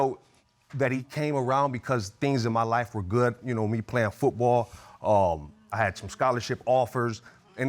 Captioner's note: none